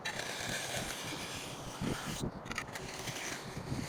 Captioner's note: cement scratches